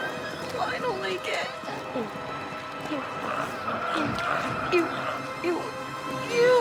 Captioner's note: squeals